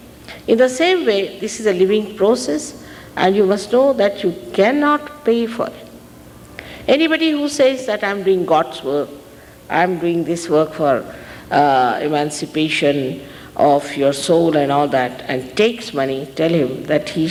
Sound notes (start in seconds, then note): none